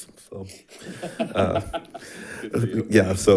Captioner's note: laughs